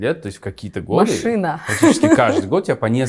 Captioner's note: laughs